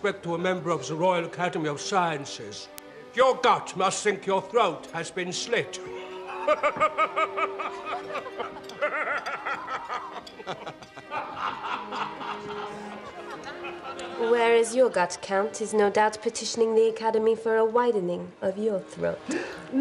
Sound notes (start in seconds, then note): 8.6 <i> laughs loudly</i>; 10.7 <i> laughter spreads</i>; 19.3 <i> gasping</i>